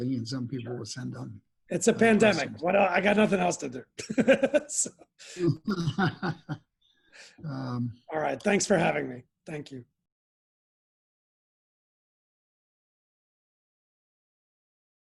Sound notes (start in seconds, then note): 3.9 laughs